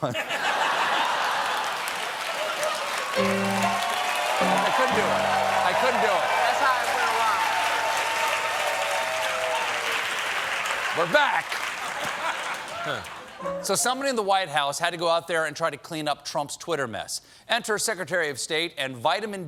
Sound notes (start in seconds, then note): 0.0 laughter; 0.1 cheers and applause; 3.2 piano riff; 8.4 cheers and applause